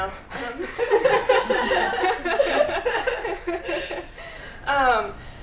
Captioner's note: laughter